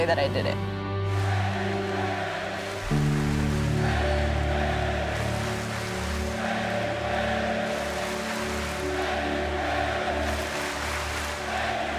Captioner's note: fans chanting